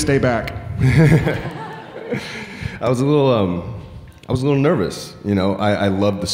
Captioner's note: laughs